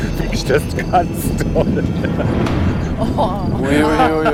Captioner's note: laughs